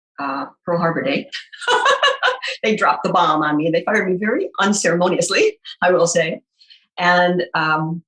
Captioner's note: laughs